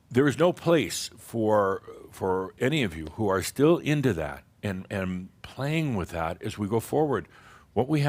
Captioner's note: none